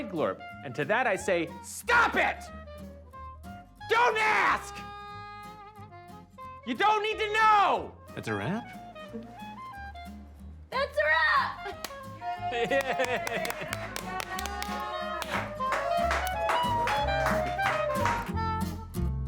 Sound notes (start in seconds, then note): 11.0 laughs; 12.2 all cheer